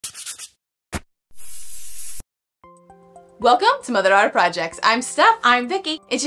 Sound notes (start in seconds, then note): 0.0 tool sanding; 1.4 sprayer hissing